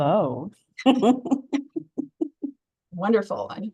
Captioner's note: chuckling